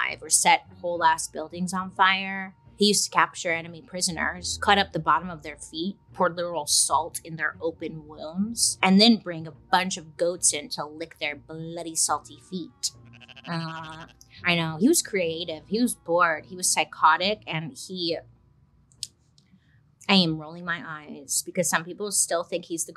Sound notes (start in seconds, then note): 13.0 goat baas